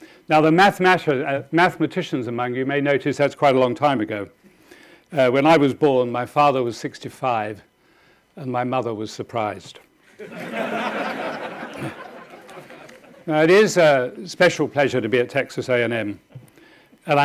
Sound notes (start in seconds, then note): 10.1 audience laughing